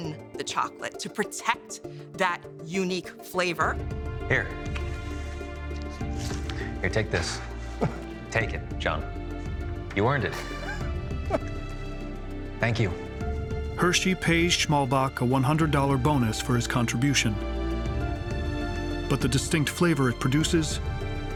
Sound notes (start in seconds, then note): 7.7 John chuckling